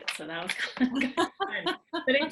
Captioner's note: laughing